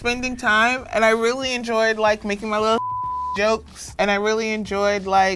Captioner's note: beep